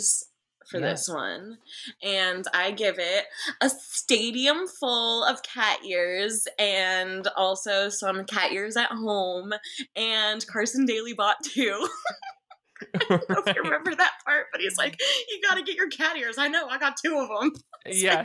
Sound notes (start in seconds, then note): 12.8 both laughing